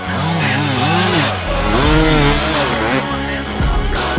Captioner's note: engine revving